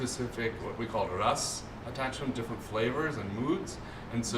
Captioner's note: non-english